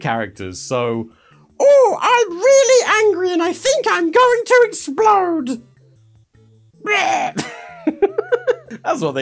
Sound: laughs

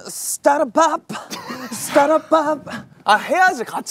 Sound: laughter

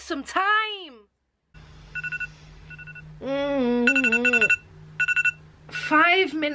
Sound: phone alarm clock rings

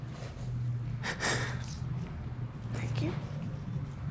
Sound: sobbing

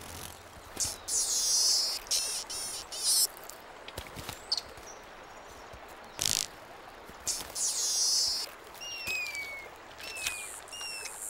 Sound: birds chirping; monkey screeches

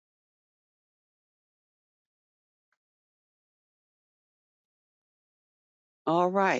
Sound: 5 seconds pause

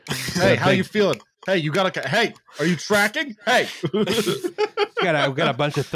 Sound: laughter

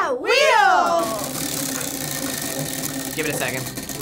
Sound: wheel rattling

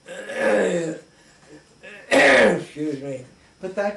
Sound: clears throat

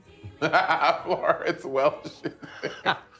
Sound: laughing

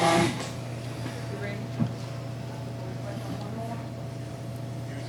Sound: faintly speaking

